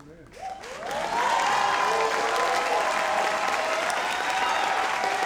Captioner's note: audience cheers